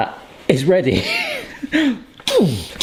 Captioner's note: laughing